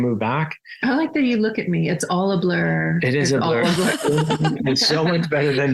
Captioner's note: everyone laughs